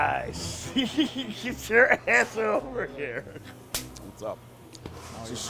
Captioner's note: laughs